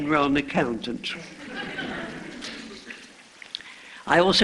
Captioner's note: laughter